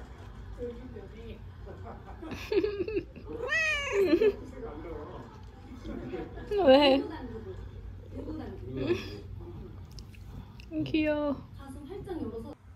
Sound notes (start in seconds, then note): 2.2 laughing